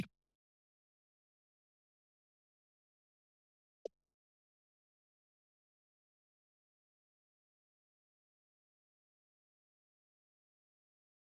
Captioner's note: silence